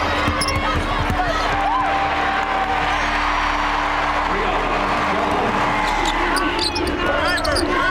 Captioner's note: cheers and applause